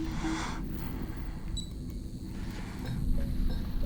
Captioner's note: watch beeps